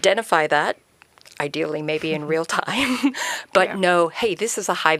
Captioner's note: chuckles